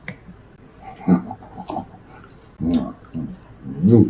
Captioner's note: laughing quietly; mumbling and chewing